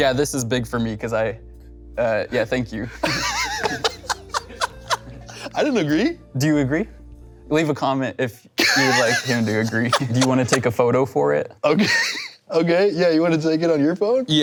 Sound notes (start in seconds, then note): 2.9 laughs